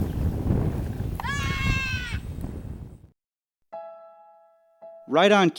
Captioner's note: screams